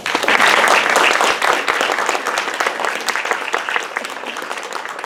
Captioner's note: clapping